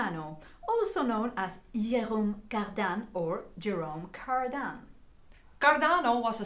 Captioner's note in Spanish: en francés